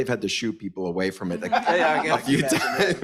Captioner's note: panelists laugh